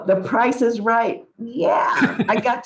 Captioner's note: laughs